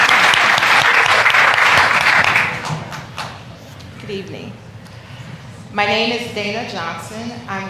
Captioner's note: applause